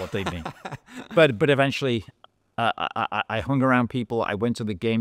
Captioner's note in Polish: śmiech